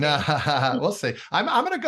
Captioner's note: laughs